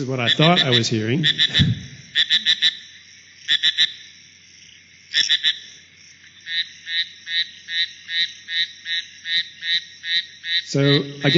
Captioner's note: sounds of frog calls